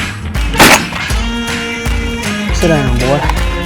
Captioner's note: gunshot